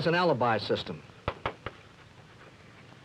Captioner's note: chalk tapping